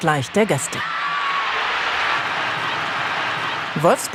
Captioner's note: applause